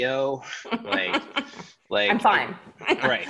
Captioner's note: chuckles